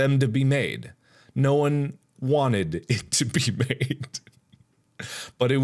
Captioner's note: chuckles